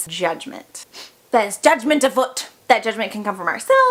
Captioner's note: sniff